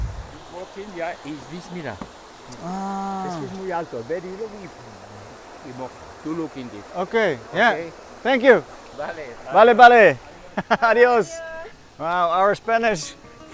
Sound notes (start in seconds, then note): 1.5 talking Spanish